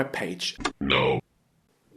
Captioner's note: robotic voice